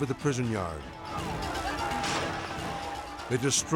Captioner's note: inmates yelling